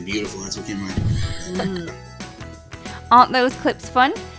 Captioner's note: laughing; humming